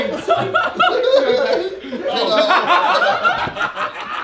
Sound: all laughing

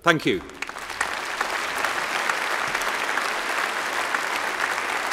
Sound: applause

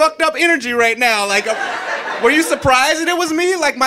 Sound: audience laughing

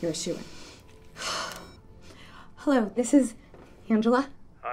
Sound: sighs

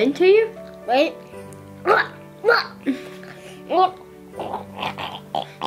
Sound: gagging sounds

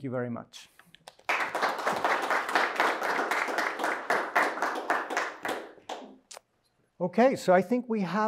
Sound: applause

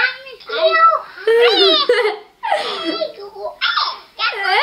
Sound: kids talking

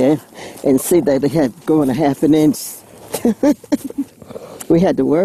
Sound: laughs

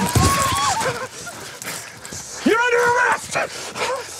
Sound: women screaming

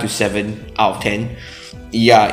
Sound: inhales

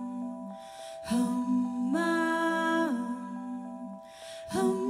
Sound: higher pitch

